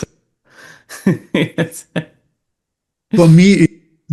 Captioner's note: laughs